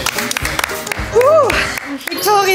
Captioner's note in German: Applaus